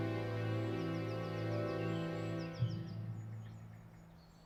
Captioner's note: birds singing